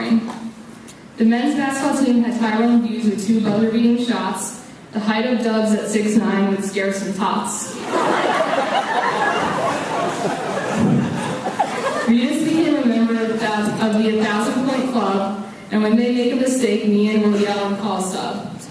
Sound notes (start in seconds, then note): 7.7 laughs